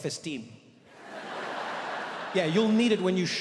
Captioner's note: audience laughs